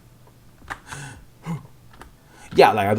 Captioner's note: bizarre sounds of confusion and terror